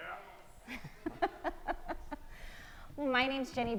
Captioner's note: laughing